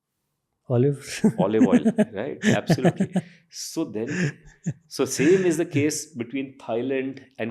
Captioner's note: chuckles